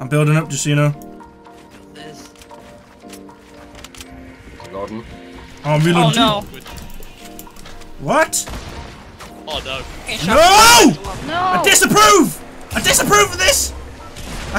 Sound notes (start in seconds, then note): 10.3 softly screams; 10.3 screams